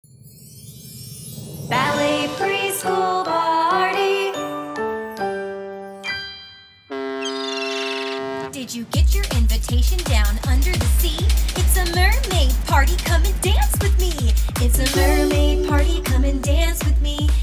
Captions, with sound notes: (intro music) Ballet Preschool Party (boat horn) Did you get your invitation down under the sea? It's a Mermaid Party come and dance with me! It's a Mermaid Party come and dance with me!